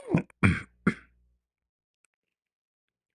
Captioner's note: batuk dan membersihkan tekak